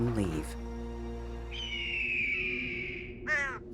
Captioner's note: bird chirping